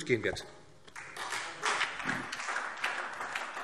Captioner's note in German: Beifall SPD